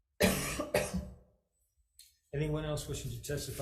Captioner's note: senator coughs